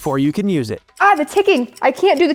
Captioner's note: clock ticking